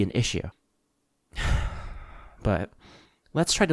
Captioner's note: sigh